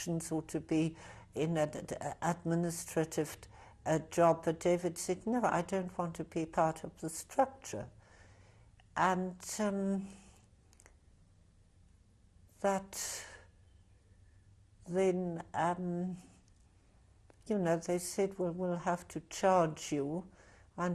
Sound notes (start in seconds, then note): 9.6 pauses for 3 seconds